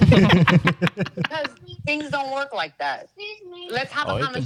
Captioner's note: laughing